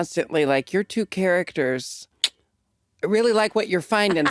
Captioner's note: clicks